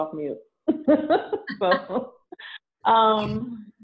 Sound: laughs

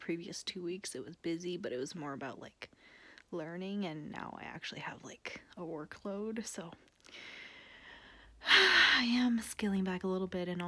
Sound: sigh

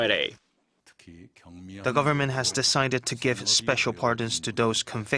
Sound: Korean

